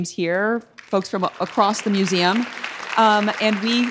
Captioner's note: audience applauds